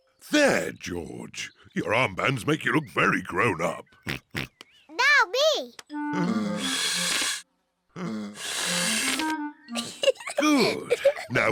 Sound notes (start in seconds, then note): 3.8 oinks; 6.5 blowing deeply; 9.7 giggles